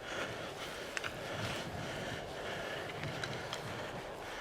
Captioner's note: heavy breathing